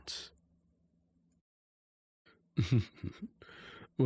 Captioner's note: chuckles